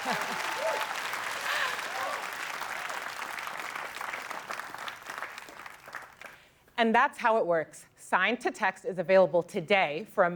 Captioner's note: applause